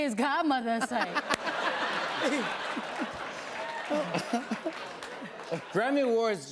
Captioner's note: laughter